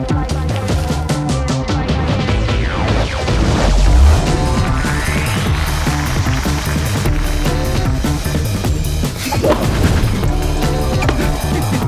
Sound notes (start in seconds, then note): 0.3 upbeat music continues; 4.2 audience applauds; 9.3 air whooshes; 10.2 upbeat music continues